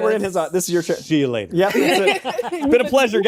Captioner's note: laughter